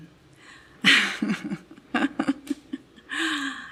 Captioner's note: laughs